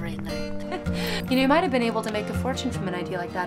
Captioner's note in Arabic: يضحك